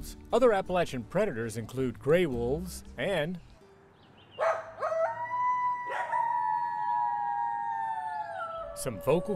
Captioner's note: barking and howling